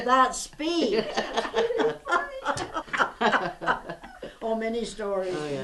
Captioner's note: laughter